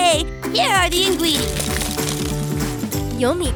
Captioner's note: clattering